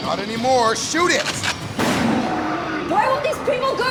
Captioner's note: gun cocks, gunshot